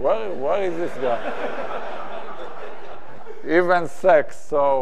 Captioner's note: audience laughs